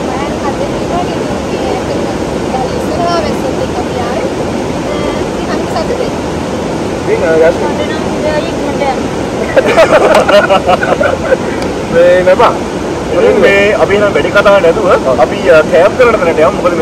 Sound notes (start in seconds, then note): 9.4 laughing